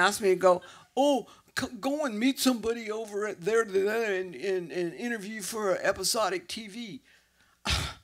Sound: with ignorant accent; exhale

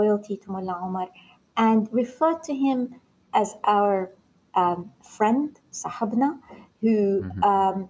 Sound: foreign language 00:54:55

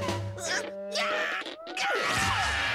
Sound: screaming

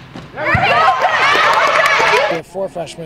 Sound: audience cheers

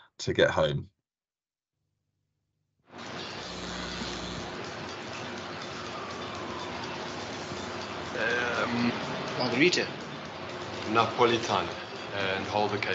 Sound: buzzing

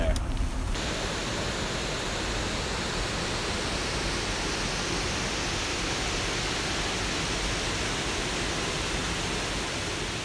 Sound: rushing water

